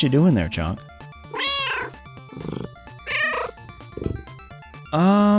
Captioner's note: meow